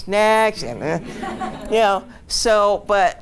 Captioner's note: audience laughs